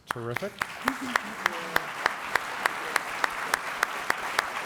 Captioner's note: applause